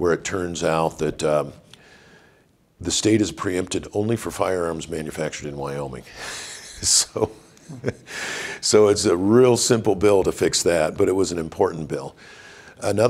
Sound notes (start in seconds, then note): 6.2 chuckles